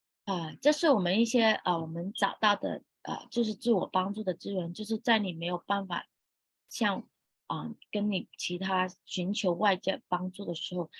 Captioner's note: speaking chinese